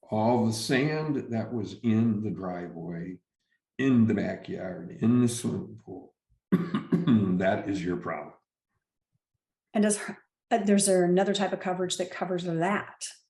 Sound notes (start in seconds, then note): 6.5 clears throat